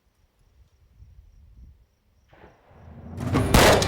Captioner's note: gunfire while dramatic music plays